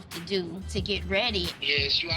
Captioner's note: on phone